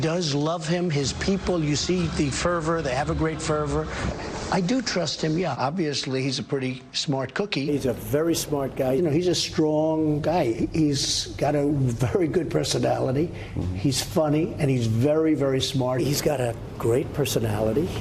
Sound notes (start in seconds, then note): none